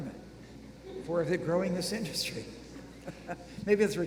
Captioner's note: laughing